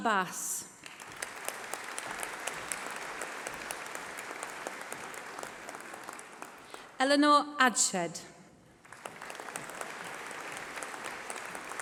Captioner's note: applause